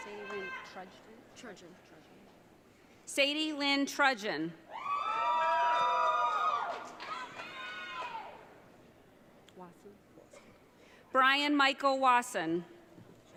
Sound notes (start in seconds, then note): 0.0 audience cheering; 4.7 audience cheering